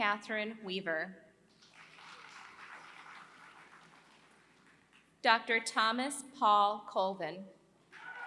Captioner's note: applause; applause